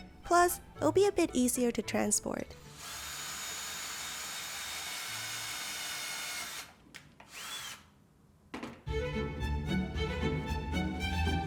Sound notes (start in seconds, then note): 2.8 whirring; 8.8 happy music